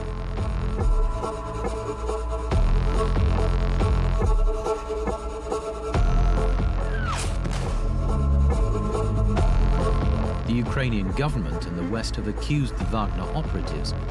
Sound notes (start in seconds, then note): 7.4 explosive whistles and explodes